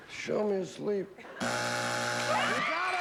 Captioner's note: buzzer